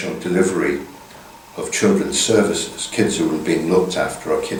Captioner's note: none